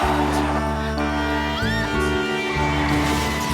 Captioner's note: horn blares; tyres screech; woman screams; tyres screech